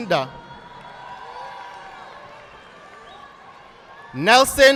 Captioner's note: audience applauding